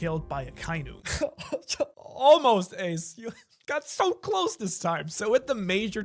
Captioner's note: fake cry